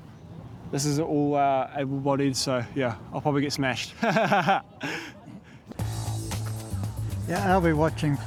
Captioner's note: chuckles